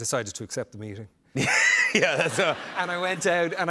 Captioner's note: laughter